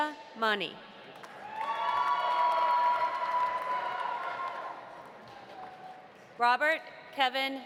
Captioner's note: audience applauding; audience cheering